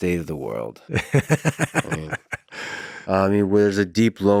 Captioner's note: laughs